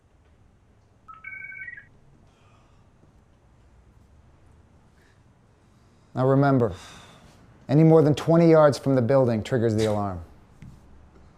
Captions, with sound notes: [bracelet chirping] Now, remember, anymore than 20 yards from the building triggers the alarm.